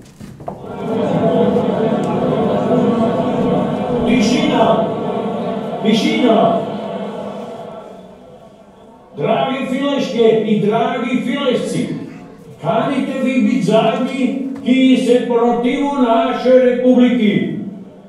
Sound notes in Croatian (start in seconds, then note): 2.9 Izvana prik zvučnika